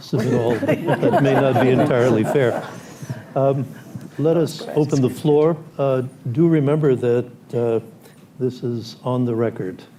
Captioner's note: laughter